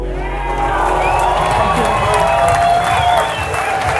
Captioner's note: audience cheers